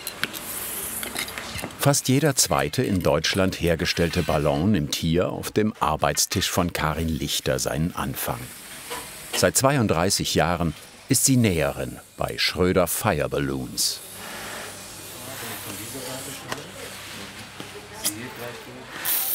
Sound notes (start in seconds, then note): 14.1 rustling and scraping of fabric